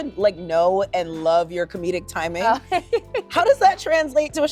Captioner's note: laughs